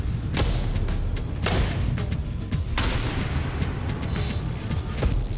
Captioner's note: rock music; blade impacts